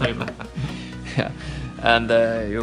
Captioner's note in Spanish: risas